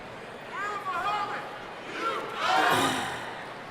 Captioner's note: shouting in audience